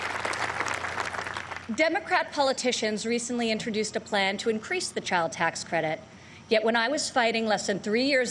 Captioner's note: applause